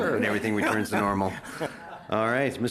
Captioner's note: laughter